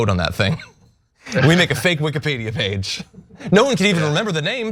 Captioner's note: laugh